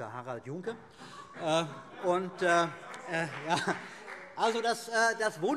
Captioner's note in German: Vereinzelte Heiterkeit und Beifall